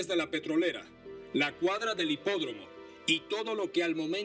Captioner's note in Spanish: none